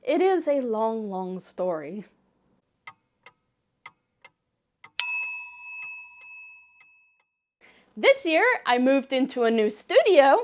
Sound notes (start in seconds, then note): 4.9 sounds of ticking clock and Buddhist alter bell